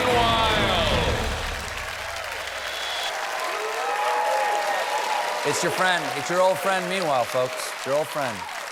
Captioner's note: cheers and applause